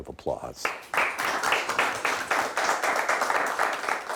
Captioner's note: clapping